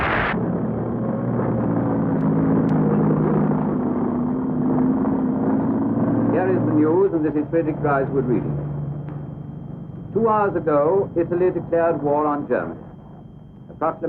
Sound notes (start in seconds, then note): 1.3 engine revving